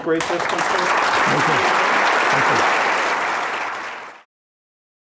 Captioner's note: applause